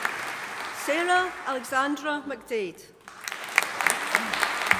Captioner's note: audience applauding